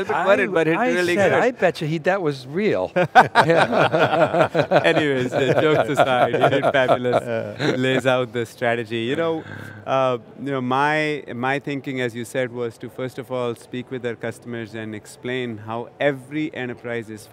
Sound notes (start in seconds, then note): 3.0 everyone chuckles